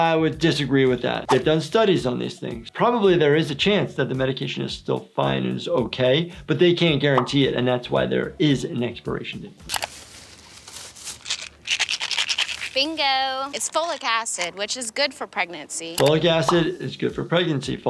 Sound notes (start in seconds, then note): none